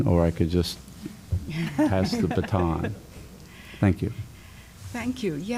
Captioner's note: laughter